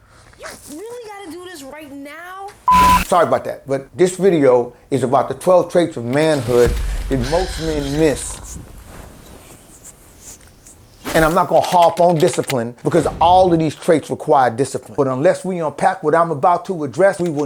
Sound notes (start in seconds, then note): 2.6 beep; 9.1 partner sighing